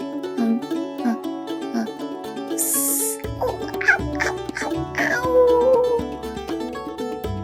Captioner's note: lava hisses